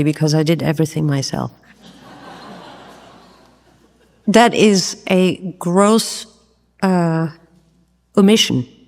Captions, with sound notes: because I did everything myself. (audience laughs) That is a gross omission.